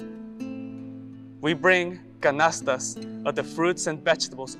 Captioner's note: gentle guitar music; speaks Spanish